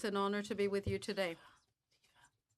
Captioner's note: speaking French